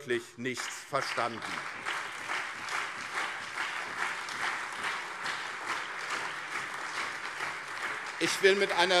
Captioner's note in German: Allgemeiner Beifall